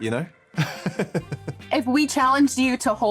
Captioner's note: laughs